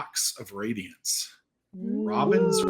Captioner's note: all oohing